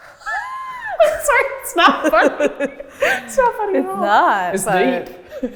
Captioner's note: laughs